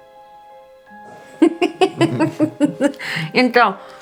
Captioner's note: laughs